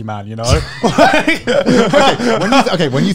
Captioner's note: both laugh